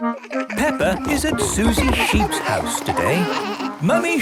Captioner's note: laughter